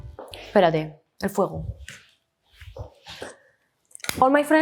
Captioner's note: speaks in Spanish